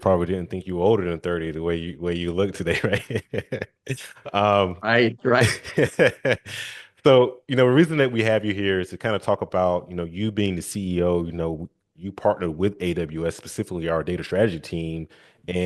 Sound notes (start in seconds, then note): 2.1 laughing